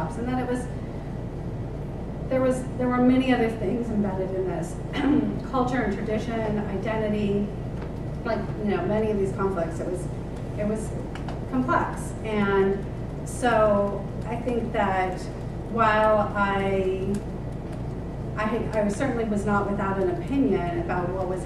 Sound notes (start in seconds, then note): 4.9 cough